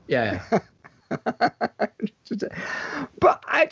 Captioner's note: laughs